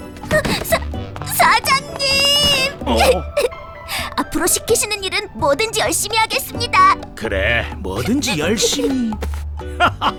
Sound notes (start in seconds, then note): 2.1 cries; 9.7 both laugh